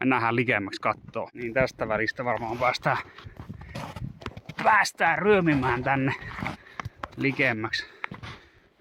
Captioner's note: labored moving